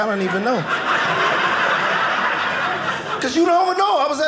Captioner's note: audience laughing